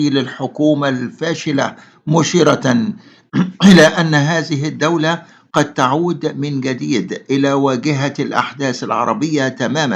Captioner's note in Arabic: تنحنُح